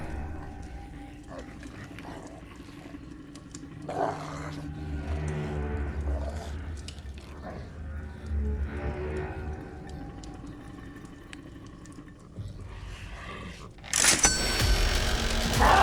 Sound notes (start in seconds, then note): 0.2 creatures snarling and chewing; 10.1 creatures snarling and chewing; 13.8 tense dramatic music; 14.0 cash register dings